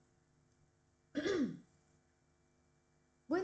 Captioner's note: clears throat